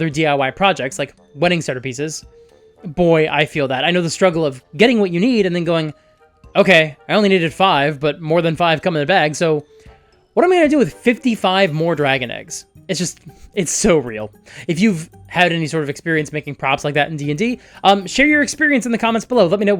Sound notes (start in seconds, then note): none